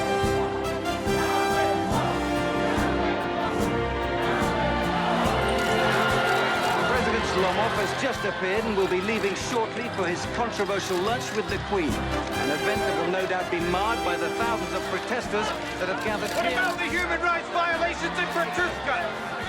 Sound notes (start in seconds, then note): 5.3 demonstrators shouting; 5.4 cameras shuttering